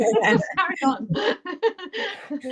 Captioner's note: laughter